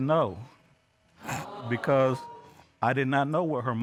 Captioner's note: audience exclaims